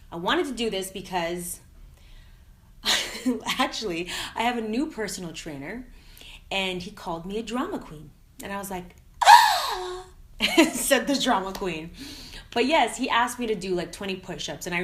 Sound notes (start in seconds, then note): 9.2 gasps; 12.0 laughing